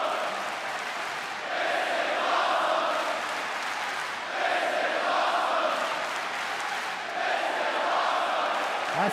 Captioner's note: crowd cheering